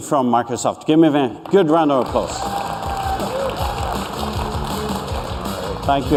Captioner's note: applause